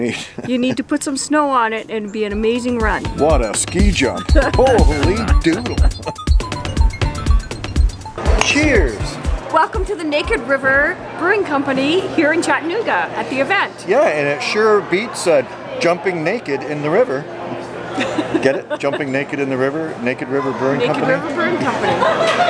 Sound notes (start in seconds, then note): 17.9 laughter